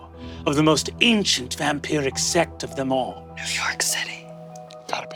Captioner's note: none